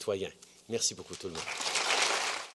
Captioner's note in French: Applaudissements